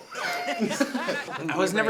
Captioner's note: everyone laughs